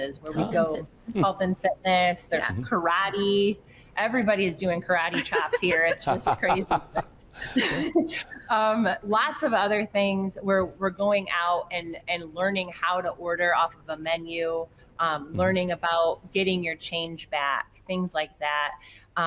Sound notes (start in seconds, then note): 5.1 laughing